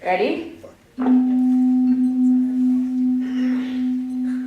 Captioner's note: tone